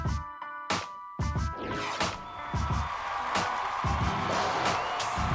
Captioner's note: cheering and applause